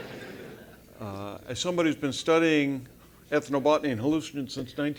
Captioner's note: laugh